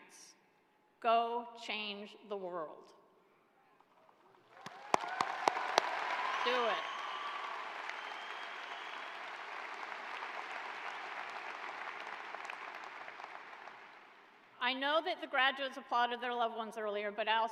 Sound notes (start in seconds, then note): 8.1 cheers and applause